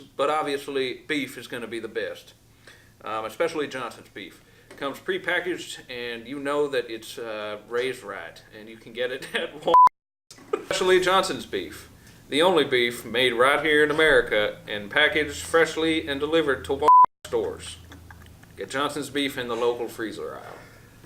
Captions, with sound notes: but obviously beef is gonna be the best, especially Johnson's Beef. It comes pre-packaged and you know that it's raised right, and you can get it at Wal (beep). (laughs) Actually, Johnson's Beef, the only beef made right here in America and packaged freshly and delivered to Wal (beep) stores. Get Johnson's Beef in the local freezer aisle.